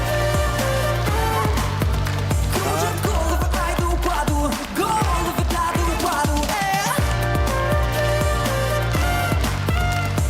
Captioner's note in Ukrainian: оплески